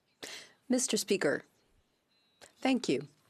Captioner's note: speaking French